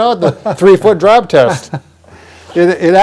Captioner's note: laughs